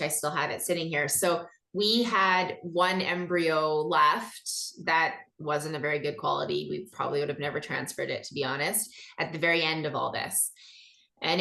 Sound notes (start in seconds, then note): none